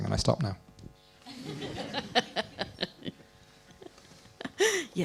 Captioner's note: laughter